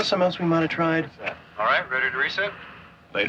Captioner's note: man On Radio